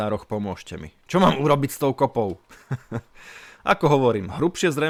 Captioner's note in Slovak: smiech